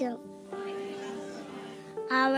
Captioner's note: audience responds in Arabic; speaking in Arabic